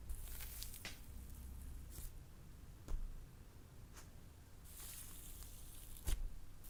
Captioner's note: clay slime mixing